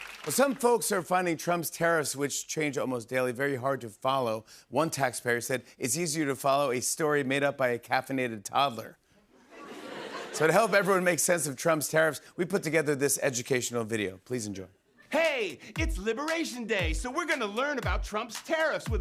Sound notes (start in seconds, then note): 9.4 laughter